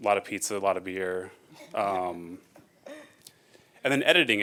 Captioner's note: giggling